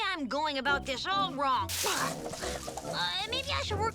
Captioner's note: bushes rustle